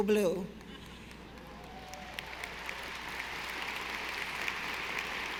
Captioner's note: audience applauding